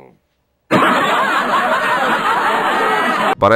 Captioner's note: ironic canned laughter